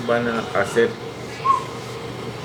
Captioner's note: whistle